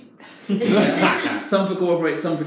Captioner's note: participants laugh